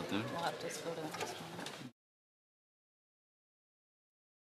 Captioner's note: some Applause